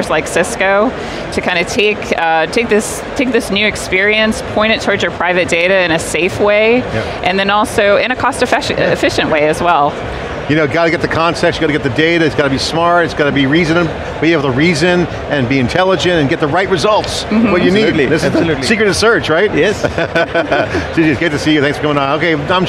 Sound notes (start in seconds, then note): 19.5 laughs